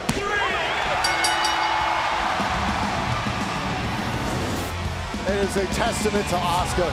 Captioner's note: crowd cheering; bell ringing